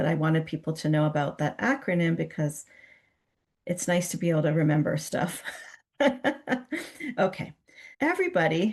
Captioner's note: chuckles